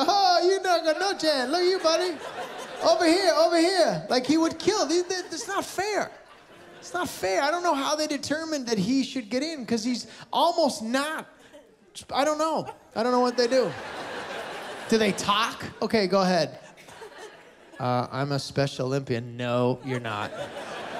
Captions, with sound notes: "Oh, you got no chance. Look at you buddy." "Over here, over here." Like he would kill. It's not fair. It's not fair, I don't know how they determined that he should get in. 'Cause he's almost not... I don't know. I don't know what they do. -[Laughter] -Do they talk? Okay, go ahead. "Ah, I'm a Special Olympian." "No, you're not."